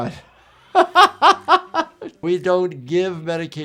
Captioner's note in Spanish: persona riendo